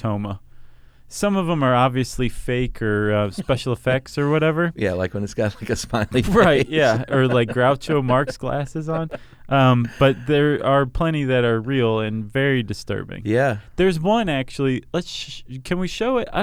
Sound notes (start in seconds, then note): 5.4 laughs